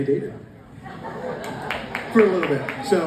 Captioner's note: audience reacts